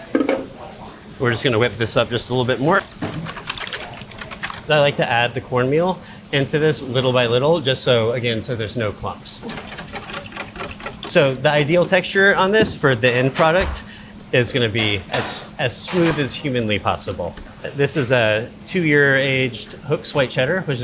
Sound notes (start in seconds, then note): 3.6 batter sloshes